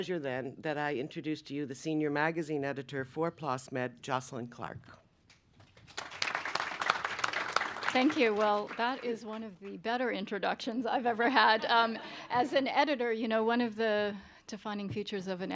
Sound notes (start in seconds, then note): 5.6 applause